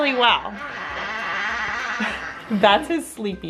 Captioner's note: grizzling